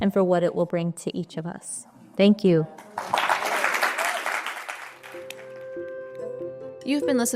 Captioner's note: applause, quickly fades out